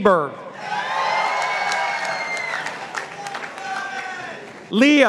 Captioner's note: participants applauding